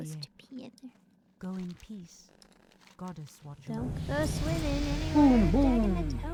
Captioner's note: humming